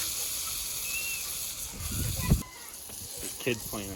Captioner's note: screams